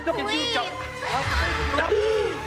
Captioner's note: Lasky gasping over menacing electronic music; whooshing electronic accent